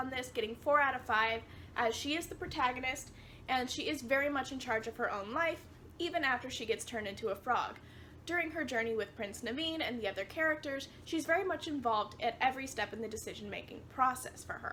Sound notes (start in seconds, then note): none